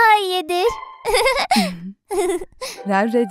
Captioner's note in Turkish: gülüyor